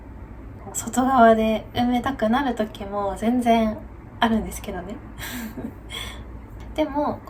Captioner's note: laughs